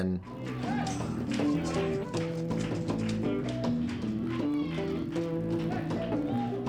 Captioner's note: people chattering; progressive rock music